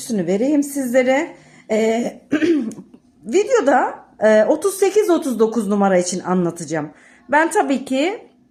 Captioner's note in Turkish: boğazını temizler